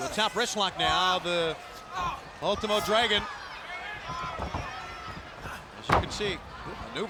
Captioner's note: body thudding